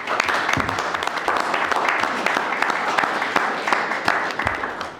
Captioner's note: audience clapping